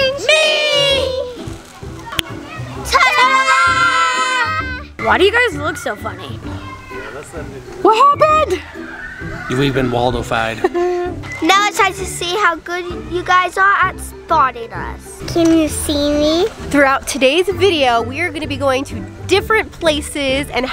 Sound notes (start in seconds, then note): 0.3 kids in unison; 2.1 fingers snapping